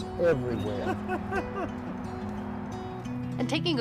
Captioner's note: laughing